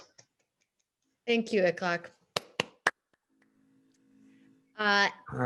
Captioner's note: clapping